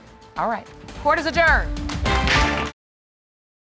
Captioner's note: applause